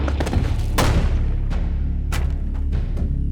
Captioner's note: gun shot